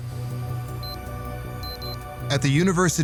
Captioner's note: electronic beeping